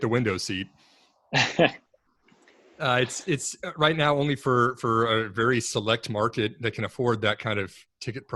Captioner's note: laughs